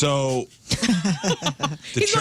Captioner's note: laughing